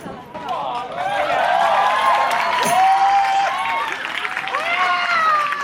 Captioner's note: crowds are clapping and cheering